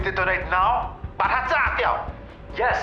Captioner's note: yells in Chinese